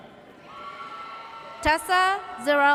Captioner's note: audience cheers